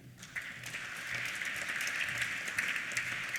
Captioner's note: applause